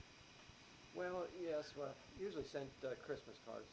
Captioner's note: none